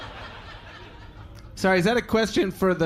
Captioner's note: audience laughing